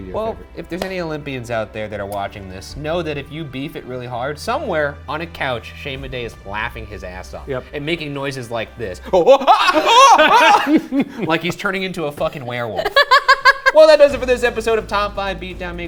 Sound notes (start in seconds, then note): 9.2 moans; 12.7 laughing